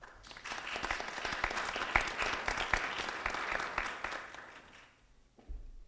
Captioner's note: applause